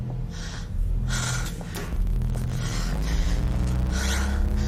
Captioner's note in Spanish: Lucy jadea